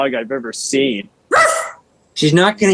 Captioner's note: Lilith barking